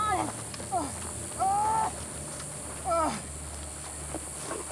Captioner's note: yelling